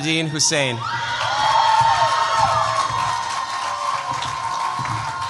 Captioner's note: cheers, applause